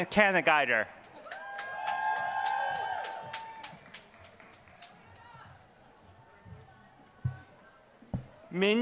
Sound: applause

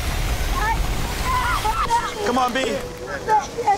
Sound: sobbing

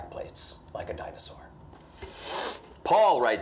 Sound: inhales sharply

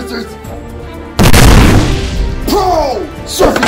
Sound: explosion of doom

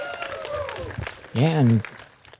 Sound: applause

